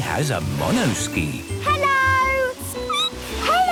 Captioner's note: squeaking